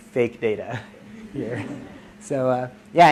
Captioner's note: audience laughs